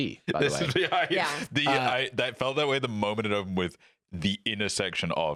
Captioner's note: laughing